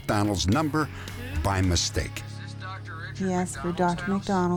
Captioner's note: on phone